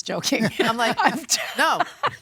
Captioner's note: laughter